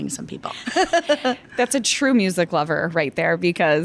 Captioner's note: laughs